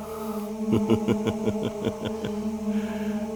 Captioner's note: Dracula laughs